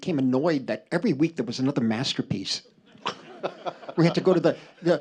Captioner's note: laughter